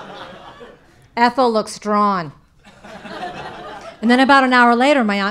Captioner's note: audience laughing; audience laughing